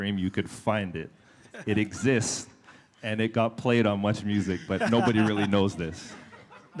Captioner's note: laughter